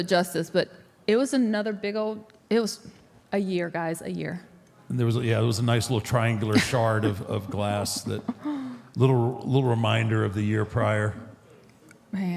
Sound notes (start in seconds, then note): 6.4 Michelle laughs